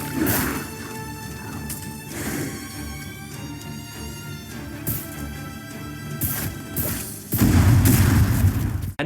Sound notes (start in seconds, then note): 1.1 tense music; 6.2 arrows firing; 7.3 bomb exploding